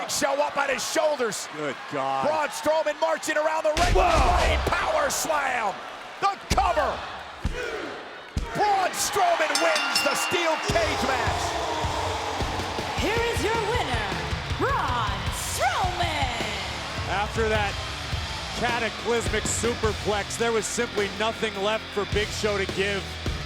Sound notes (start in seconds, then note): 9.4 bell rings